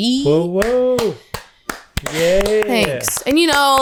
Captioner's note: claps